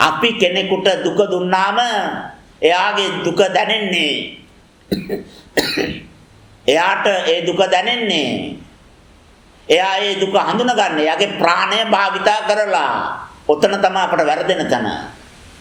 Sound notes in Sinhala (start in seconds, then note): 4.8 කැස්ස; 4.9 උගුර කෑරීම